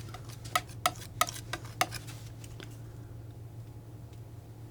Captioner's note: tapping